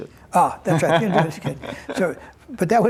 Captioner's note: laughter